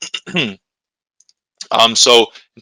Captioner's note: clears throat